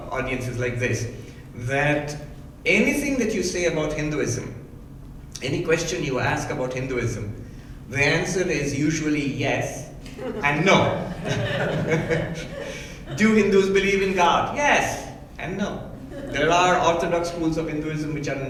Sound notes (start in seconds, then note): 10.1 laughing